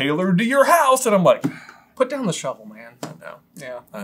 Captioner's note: dejected sigh